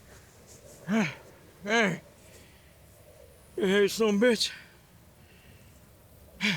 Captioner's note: sighs